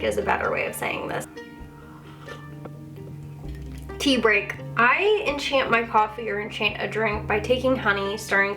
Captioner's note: sips